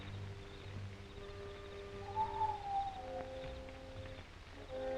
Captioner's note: whistling call